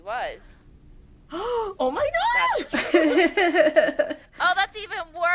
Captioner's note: laughter